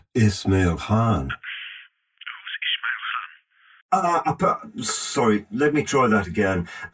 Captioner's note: on phone